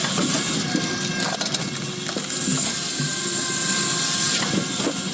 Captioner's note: drill whirring